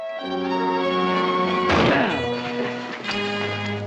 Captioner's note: gunshot